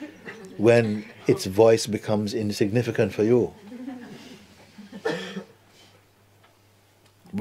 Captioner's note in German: Lachen